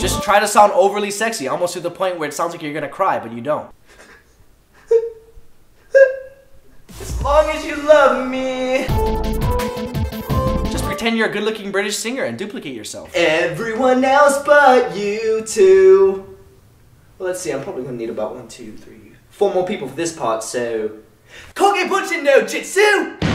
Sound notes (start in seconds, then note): 5.8 crying